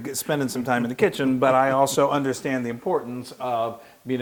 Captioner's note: laugh